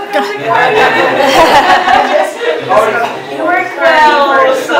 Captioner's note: laughter